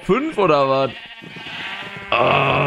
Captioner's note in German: Meckern